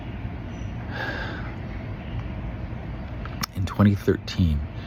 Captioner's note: sigh